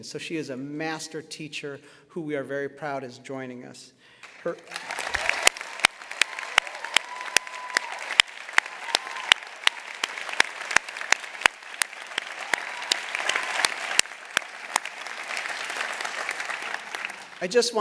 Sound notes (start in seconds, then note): 4.2 applause